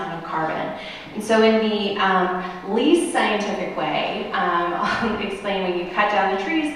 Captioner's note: laughter